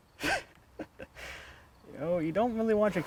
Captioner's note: laughing